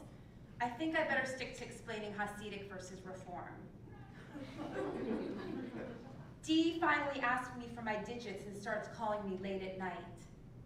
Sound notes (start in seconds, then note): 4.2 laugh